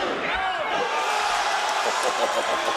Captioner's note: crowd cheering; Booker laughing